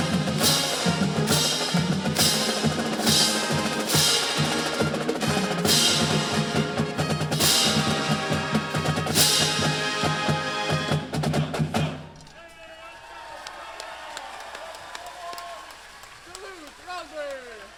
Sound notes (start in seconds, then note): 12.2 cheering